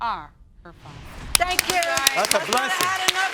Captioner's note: clapping